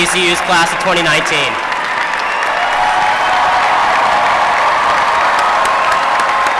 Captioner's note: applause